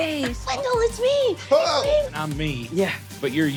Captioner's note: yelps